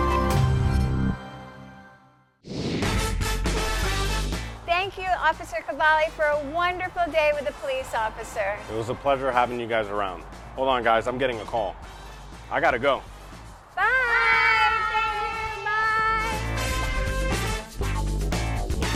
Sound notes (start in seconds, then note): 2.4 frame whooshing; 2.5 upbeat music; 16.8 funky upbeat music